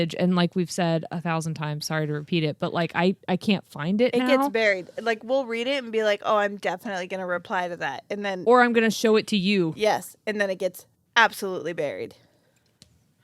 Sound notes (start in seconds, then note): none